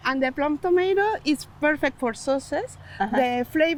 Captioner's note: both laugh